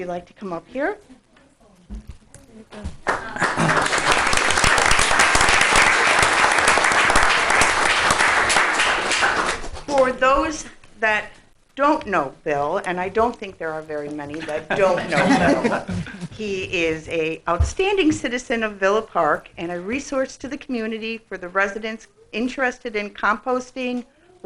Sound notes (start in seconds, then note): 3.0 applause; 14.4 laughing